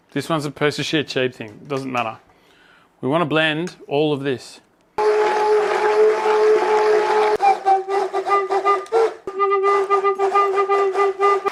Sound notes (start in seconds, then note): 5.0 mixing noises